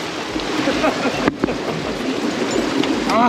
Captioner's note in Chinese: 一陣嘲笑